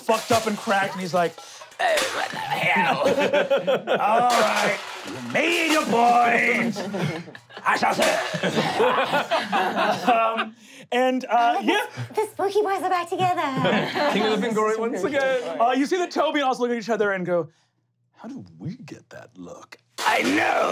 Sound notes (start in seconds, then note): 3.7 laughing; 4.1 clanking; 20.5 clanking